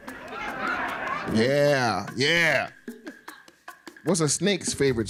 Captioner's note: laughing